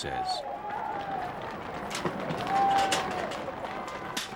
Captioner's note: crowd cheering